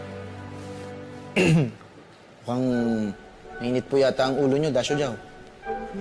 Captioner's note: clears throat